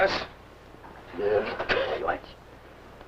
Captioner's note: foreign language